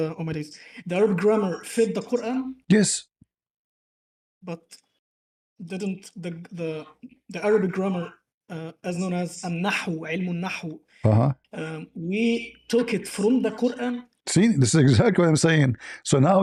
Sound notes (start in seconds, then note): 10.8 Arabic